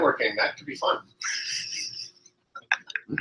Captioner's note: laughter